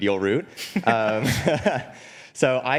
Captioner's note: laughs